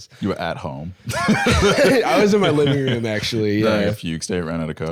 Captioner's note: both laughing